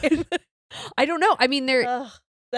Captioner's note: both giggles